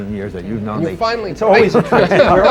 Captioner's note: laughter